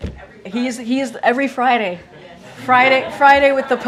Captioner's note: laughter